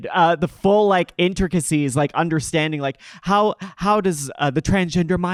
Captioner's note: none